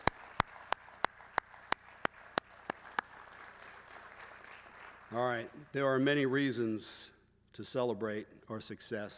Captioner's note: applause